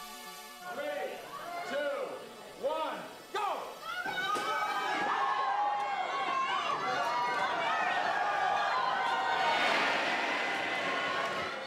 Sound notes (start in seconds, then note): 3.8 cheering